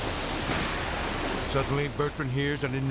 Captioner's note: yacht exploding